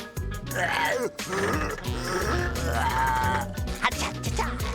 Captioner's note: grunting